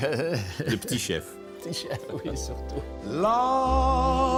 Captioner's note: laughs; laughs